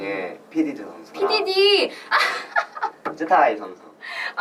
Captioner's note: laughs